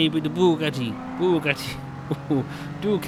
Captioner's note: giggling